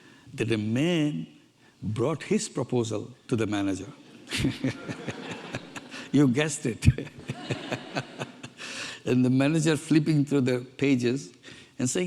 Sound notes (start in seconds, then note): 4.0 audience laughing; 4.2 laughs; 7.2 laughs